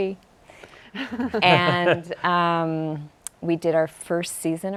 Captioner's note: laughing